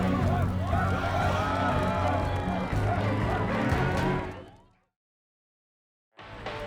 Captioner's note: dramatic music; crowd chanting